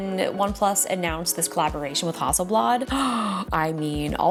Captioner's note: gasps deeply